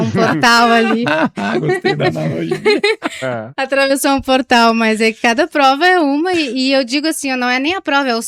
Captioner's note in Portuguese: risadas